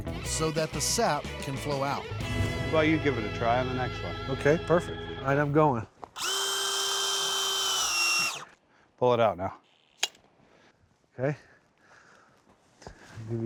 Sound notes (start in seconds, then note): 6.1 drilling sound